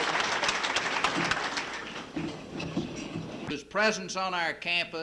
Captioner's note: applause